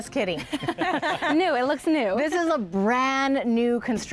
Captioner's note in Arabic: يضحك